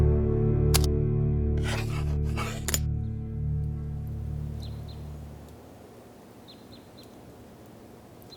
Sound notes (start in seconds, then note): 4.1 birds chirping